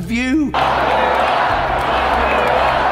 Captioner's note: crowd cheering